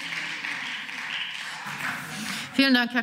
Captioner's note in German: Beifall